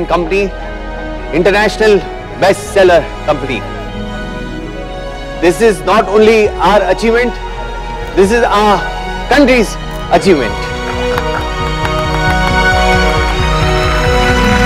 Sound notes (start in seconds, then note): 10.7 Clapping